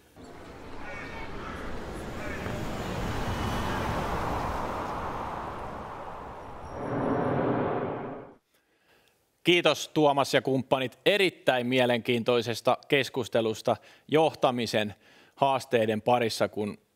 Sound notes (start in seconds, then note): 1.1 whooshing transition sound